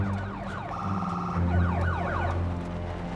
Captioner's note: emergency vehicle siren